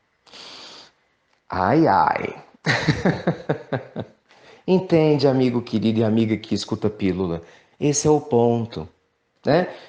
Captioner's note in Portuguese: Risadas